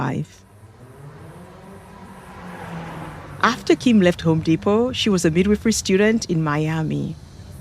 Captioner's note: busy street